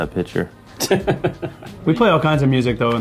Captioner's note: Justin laughing